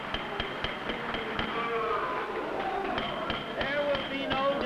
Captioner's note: excited, indistinct chatter; gavel banging; chatter and commotion